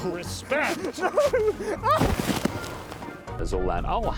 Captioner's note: laughing